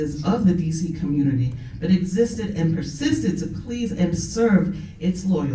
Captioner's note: none